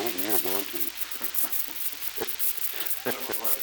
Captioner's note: laughter